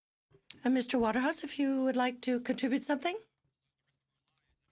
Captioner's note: speaking French